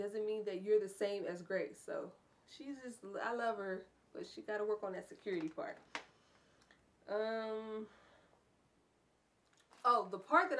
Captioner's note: sigh